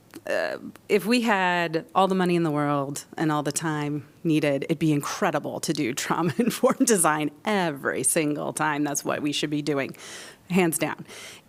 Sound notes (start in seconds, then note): 6.8 laughter